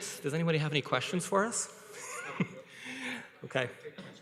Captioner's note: chuckles